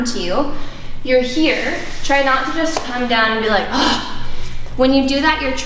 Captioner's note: sighs